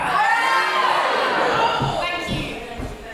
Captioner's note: mixed audience response